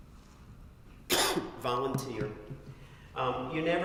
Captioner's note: cough